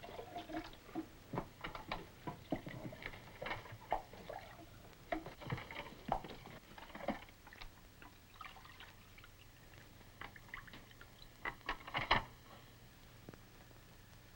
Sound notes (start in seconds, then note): 0.0 water trickles; 8.4 water trickles